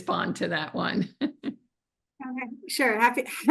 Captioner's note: laughs